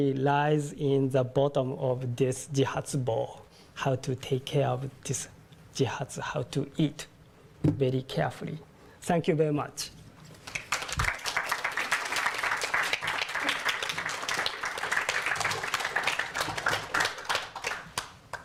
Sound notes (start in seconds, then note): 2.4 japanese; 5.5 japanese; 10.4 applause